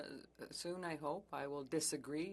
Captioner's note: speaking French